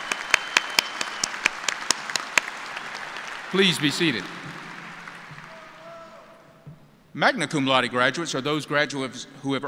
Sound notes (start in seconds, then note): 4.6 cheers and applause